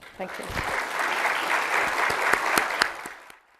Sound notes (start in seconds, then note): 0.0 audience applauding